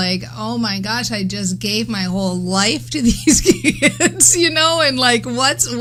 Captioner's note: laughs